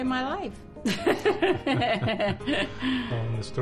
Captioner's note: both laugh